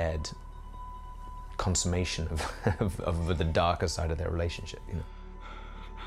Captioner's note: chuckles